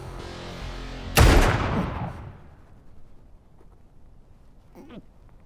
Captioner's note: gunfire echoing